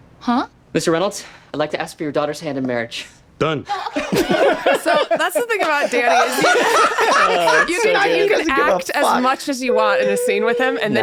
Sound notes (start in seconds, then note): 3.7 laughter; 7.5 laughing